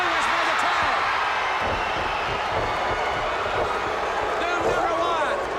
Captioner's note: crowd chatter